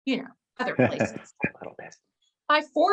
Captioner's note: chuckles